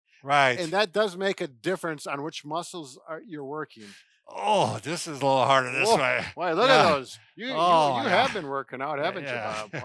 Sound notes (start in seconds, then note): 5.7 grunts